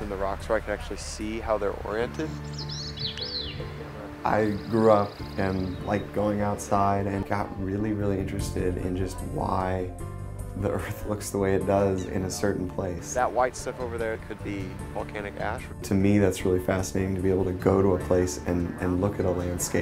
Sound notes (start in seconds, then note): 2.2 bird trilling